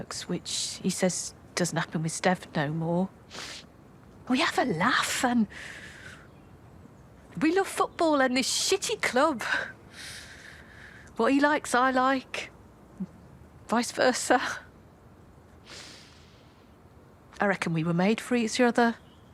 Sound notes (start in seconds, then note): 3.3 she sniffs; 9.9 she inhales; 15.6 she inhales